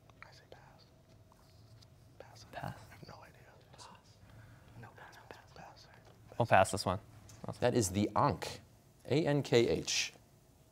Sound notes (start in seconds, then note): 0.3 whispering; 2.6 quietly; 3.5 whispering